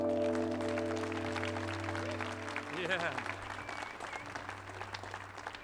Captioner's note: audience applauding